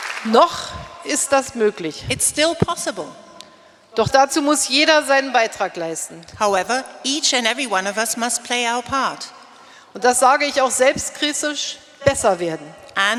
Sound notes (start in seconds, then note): 0.0 applause; 0.2 speaking in German; 3.6 speaking in German; 10.1 speaking in German